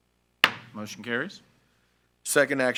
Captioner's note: gavel bangs